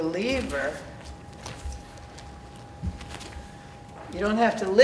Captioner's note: feet thudding